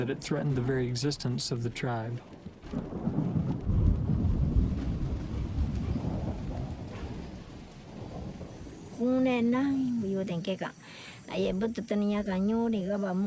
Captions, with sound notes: that it threatened the very existence of the tribe. (rain pattering) - (speaking in foreign language)